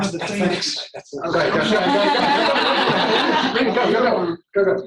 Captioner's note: laughter